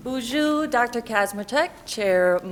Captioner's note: speaking in foreign language